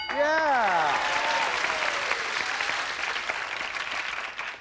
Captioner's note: applause